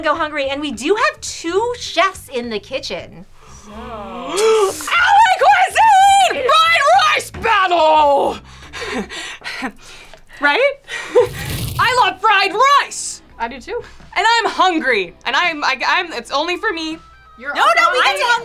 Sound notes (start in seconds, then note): 8.2 pants